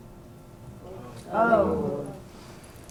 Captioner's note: crowd wows